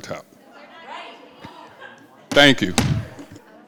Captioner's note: crowd shouting